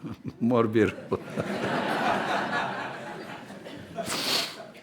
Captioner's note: laughter